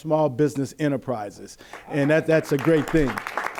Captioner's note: applause